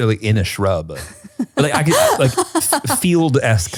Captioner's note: laughs